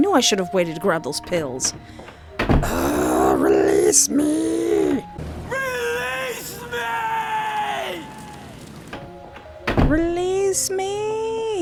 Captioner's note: screaming externally